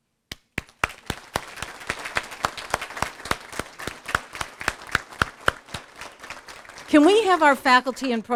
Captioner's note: applause